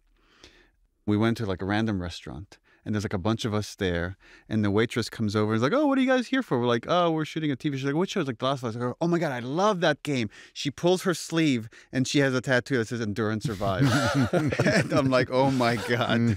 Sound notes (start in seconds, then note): 13.4 laughter